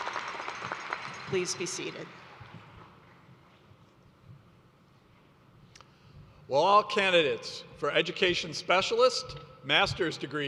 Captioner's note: applause